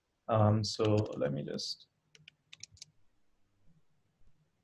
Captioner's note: clicking